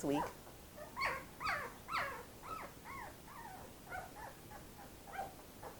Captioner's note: puppies whimpering and barking